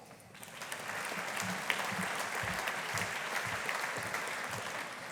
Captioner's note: audience applauding